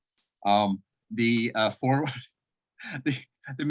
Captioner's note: chuckle